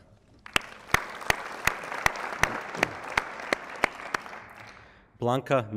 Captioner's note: applause